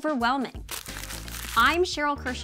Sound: paper crumpling

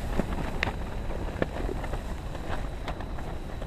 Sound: wind flapping tent

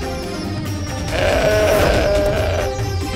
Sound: bull roaring

